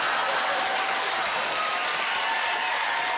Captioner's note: applause